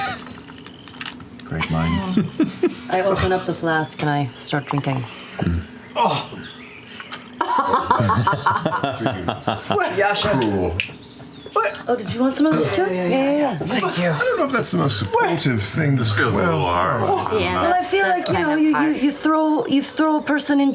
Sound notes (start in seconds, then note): 0.1 laughter; 4.0 scoffs; 7.4 laughter; 10.8 snaps